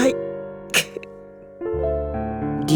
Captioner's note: lamenting grunt